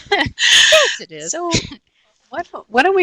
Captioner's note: laughing